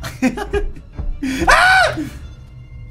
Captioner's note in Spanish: Grita